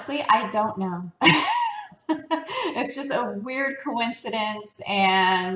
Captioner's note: laugh